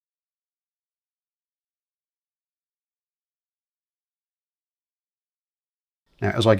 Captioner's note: silence